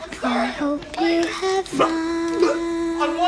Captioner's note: vomiting